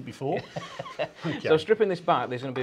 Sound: chuckles

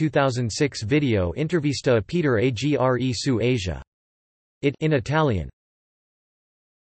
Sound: in Italian

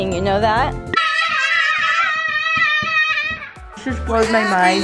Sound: screaming

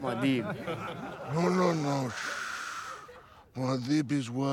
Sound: laughter

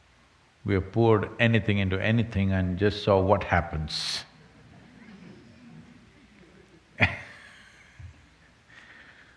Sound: laughter

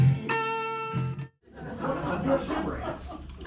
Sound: audience laughter

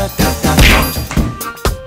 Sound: smack

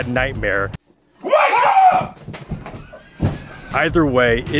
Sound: screams

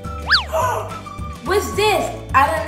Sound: gasps

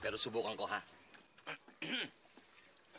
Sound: clears throat

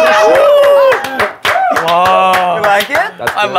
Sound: clapping

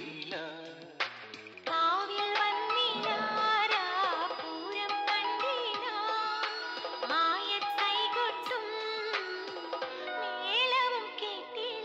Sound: radio in background

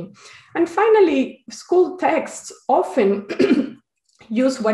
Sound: clears throat

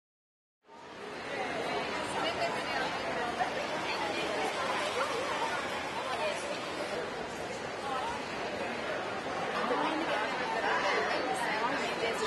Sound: background chatter and noise

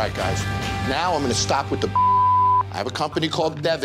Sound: beeping

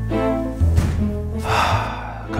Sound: sighs

